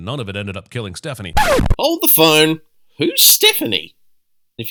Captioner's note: record scratch